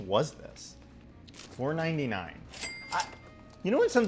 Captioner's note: register ka-ching